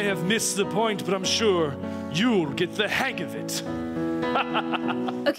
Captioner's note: laughs